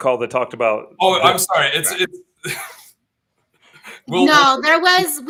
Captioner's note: laughs